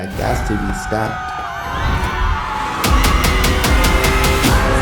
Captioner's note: screaming